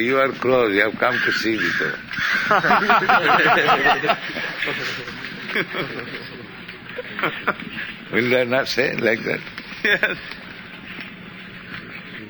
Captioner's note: laughter